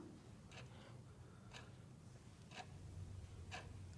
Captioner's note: clock ticking